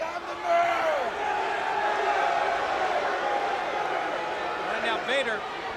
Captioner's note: crowd cheering